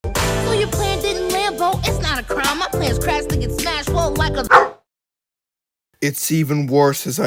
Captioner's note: bark